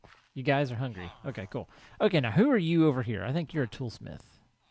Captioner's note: chattering continues